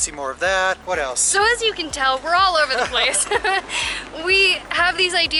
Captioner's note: laughter